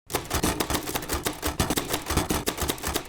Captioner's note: typewriter typing sounds